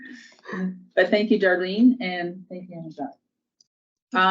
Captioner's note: speaks faintly